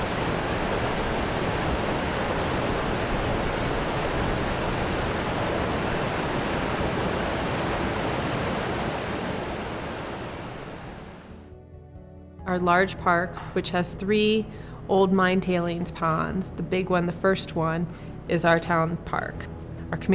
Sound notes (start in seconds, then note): 0.0 rushing water